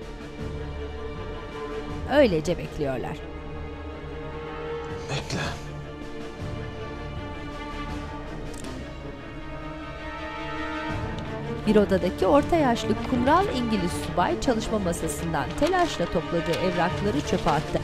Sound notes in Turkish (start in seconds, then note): 6.4 Müzik - Gerilim; 13.6 Kâğıt hışırtısı sesleri